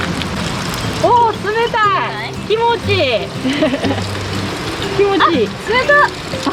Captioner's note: laughs